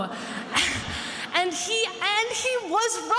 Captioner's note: attendees laughing